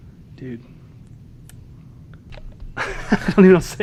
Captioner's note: laughing